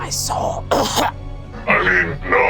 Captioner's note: coughs